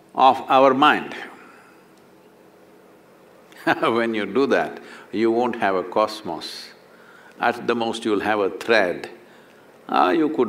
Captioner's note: laughs